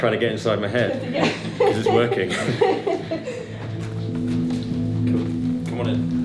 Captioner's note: laughter